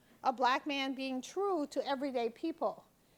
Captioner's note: none